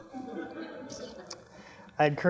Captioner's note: laughter